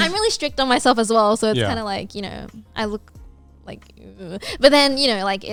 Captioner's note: groans